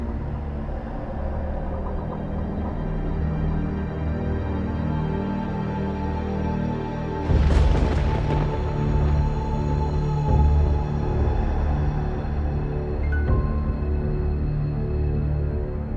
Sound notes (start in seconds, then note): 7.3 thunder crashing